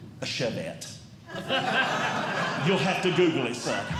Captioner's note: audience Laughing